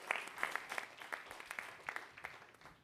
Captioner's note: applause